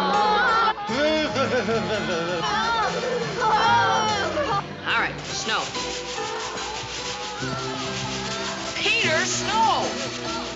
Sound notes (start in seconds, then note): 0.2 shivering; 2.0 moaning and groaning